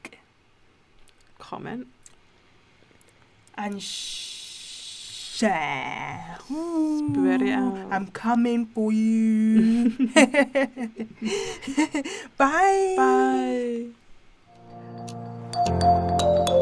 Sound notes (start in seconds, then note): 9.5 laughs